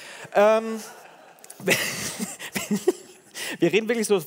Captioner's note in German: Gelächter